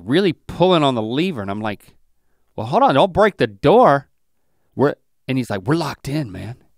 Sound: none

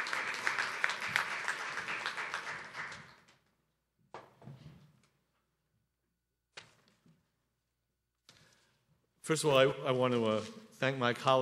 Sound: applause

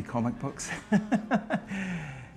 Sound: laughs

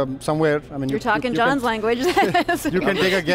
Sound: laughs

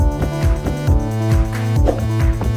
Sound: swoosh

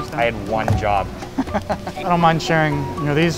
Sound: laughing

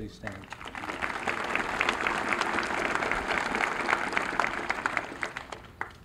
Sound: applause

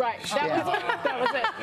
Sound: laughter

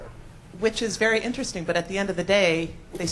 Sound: voiceover

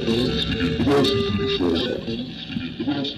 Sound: coughs

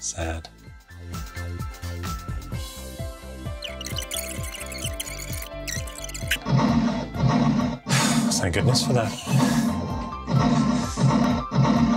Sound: cries

